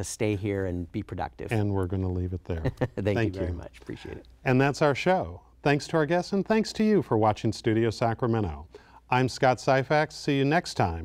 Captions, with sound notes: here and be productive. >>And we're going to leave it there. >> (Laughter) >>Thank you. >>Thank you very much, appreciate it. >>And that's our show. Thanks to our guests and thanks to you for watching Studio Sacramento. I'm Scott Syphax, see you next time,